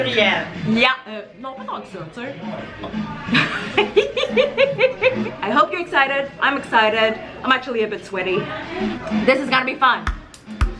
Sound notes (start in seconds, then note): 3.2 laughs; 10.0 drum music